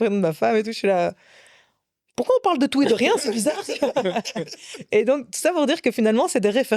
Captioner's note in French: rires